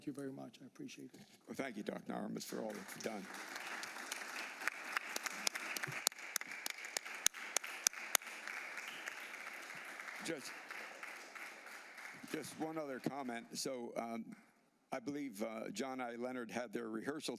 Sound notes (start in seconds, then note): 5.5 applause